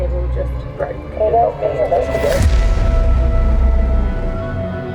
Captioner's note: gentle ominous music; people chattering; gentle brooding music